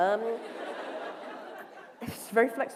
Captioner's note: laughter